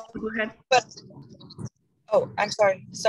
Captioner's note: static noise